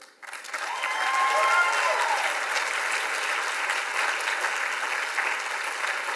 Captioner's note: audience applauds and cheers